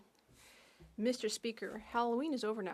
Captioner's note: speaking French